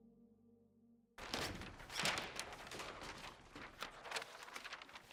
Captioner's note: paper rustling